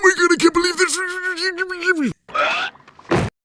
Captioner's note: stammering; screeches